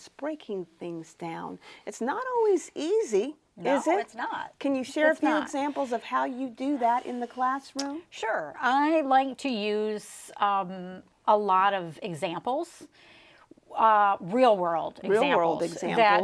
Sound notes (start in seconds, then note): none